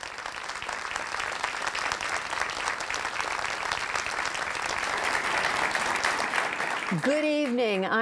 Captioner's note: applause